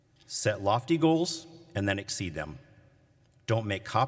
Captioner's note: none